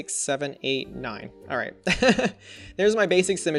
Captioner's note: laughs